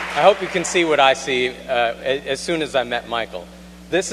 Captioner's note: cheers and applause